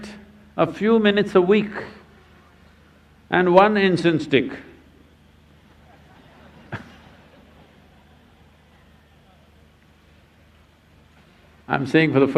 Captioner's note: laughs